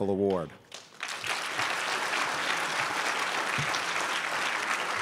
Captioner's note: crowd applauds